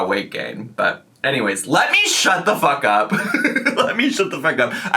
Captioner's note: laughs